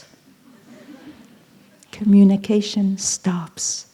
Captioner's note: laughter